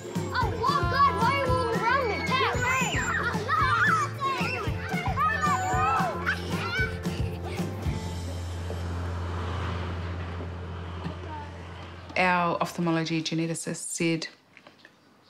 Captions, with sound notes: Oh, what? God, why are you all around me? Tag! You ran! (CHILDREN SCREAM, CHATTER) (LAUGHS) Our ophthalmology geneticist said